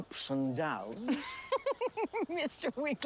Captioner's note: laughs